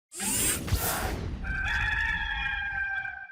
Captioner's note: rooster crowing; cheering